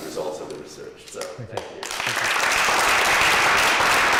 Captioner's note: applause